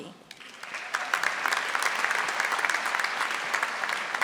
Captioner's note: audience applauding